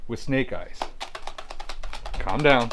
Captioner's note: mimicking drum rolls